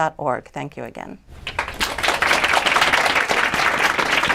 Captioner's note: applause